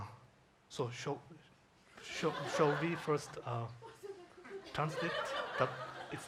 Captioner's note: audience laughs